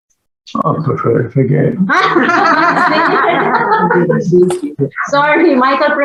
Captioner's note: laughter